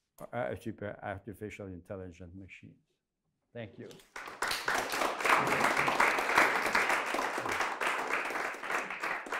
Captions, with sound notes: super artificial intelligent machines. Thank you. (applause)